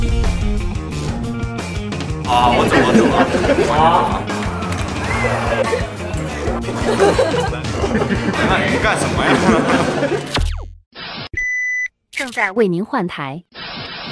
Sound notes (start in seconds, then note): 2.2 hahaha; 7.2 hehehe